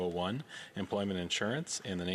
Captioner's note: speaking French